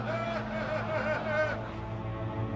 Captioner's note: voldemort's followers laughing